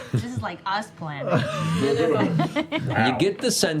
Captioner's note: laughs